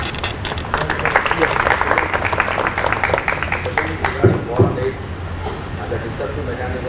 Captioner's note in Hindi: तालियां